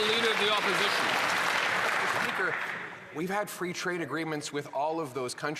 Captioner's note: some Applause